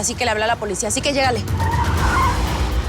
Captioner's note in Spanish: Chirrido de llantas